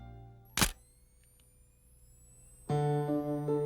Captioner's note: camera clicks